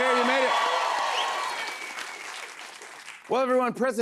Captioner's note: cheers and applause